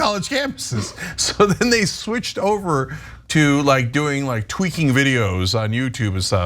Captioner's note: laugh